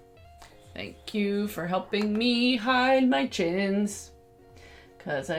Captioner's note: sing-songy